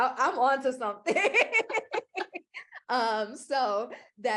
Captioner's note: laughter